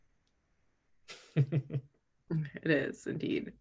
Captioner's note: Chad laughing